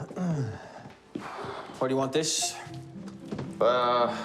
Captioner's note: clearing throat; sighing